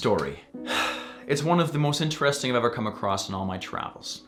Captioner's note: sighs